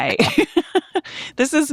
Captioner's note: laughing